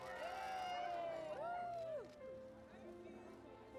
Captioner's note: people cheering